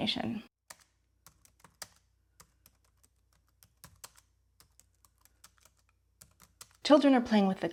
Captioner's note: typing sounds